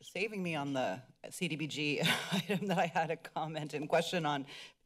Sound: giggles

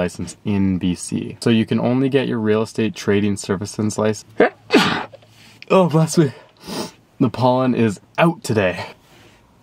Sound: sneeze

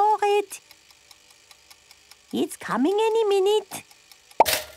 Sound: toaster ticking; pops

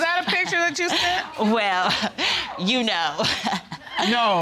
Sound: laughing

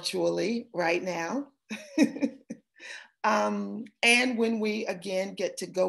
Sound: laughter

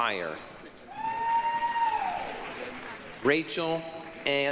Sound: applause, cheering

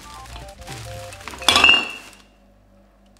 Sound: loud clang

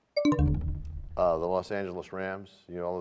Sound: bell chimes, time expires

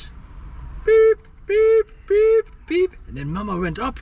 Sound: beeping

